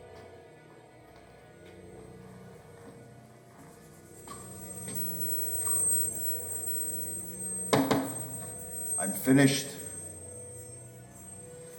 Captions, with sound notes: (knock on door) - I'm finished.